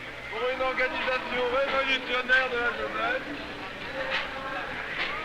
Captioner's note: French